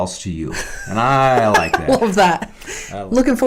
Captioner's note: laughs